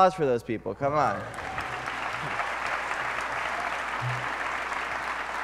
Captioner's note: applause